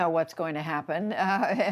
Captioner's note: laughter